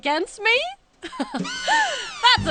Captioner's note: laughing